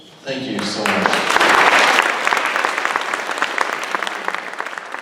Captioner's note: applause